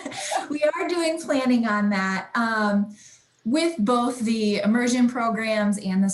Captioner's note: laughs